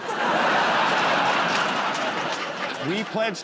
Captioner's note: laughter